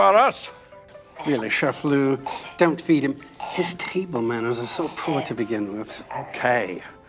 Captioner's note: dog choking